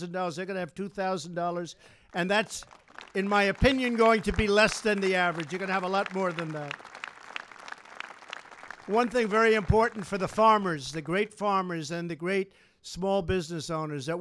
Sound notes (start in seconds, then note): 7.0 applause